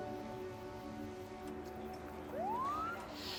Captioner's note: siren wails